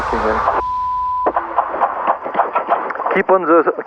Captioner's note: beep